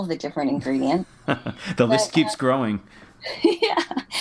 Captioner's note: laugh; laugh